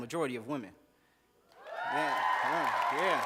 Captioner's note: cheers, applause